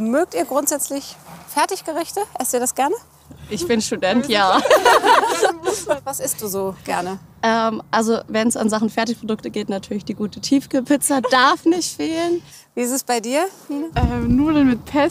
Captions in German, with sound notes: Mögt ihr grundsätzlich Fertiggerichte, esst ihr das gerne? Ich bin Student, ja. (Lachen) Was isst du so gerne? Wenn's um Sachen Fertigprodukte geht, natürlich die gute Tiefkühlpizza darf nicht fehlen. Wie ist es bei dir? - Nudeln mit Pesto.